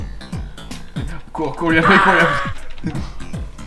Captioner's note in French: spy cries in french